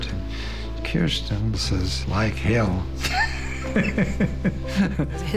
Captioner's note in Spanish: Se ríe